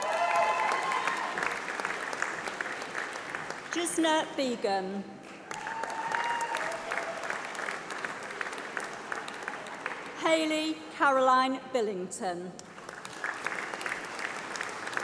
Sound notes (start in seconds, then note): 3.6 applause